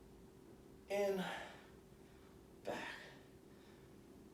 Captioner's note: exhaling